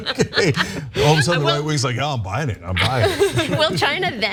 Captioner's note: laugh